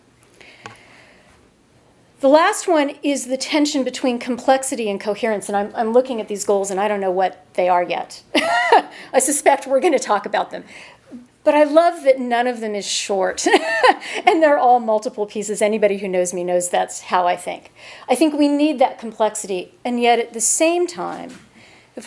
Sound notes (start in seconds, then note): 8.4 laughs; 13.5 chuckles